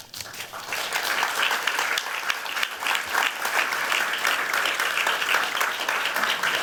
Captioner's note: audience clapping